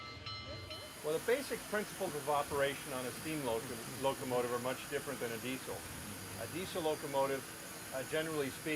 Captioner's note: train bell